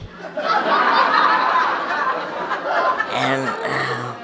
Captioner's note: audience laughs